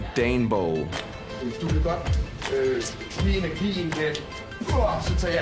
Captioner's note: speaking danish